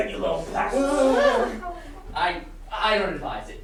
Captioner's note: sailors whimpering with fear